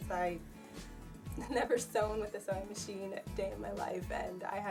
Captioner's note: laughs